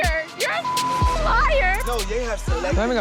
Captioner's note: beeping